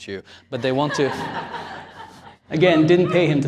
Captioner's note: laughter